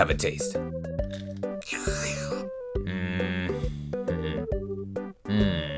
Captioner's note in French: slurpe